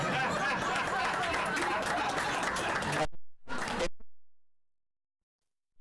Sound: laughter

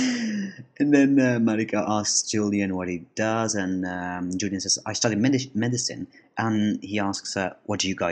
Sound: laughs

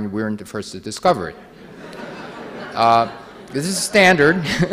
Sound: audience laughing

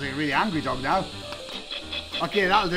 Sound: buzzer

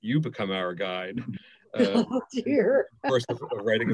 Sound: laughing

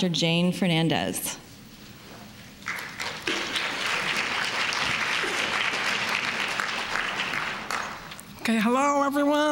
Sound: applause

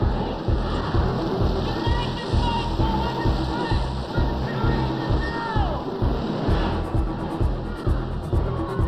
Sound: chanting

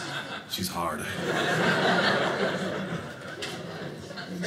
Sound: audience laughing

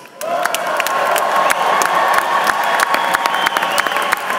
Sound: cheers and applause

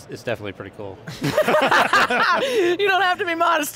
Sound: panel laughing

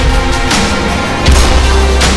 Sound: gunfire

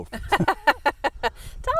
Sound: laughing

